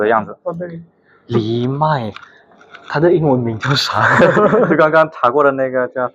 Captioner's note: laughs